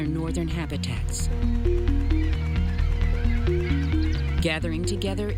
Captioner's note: birds calling